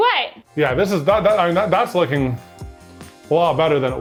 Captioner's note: stammers